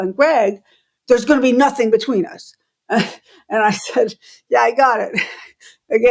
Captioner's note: laughter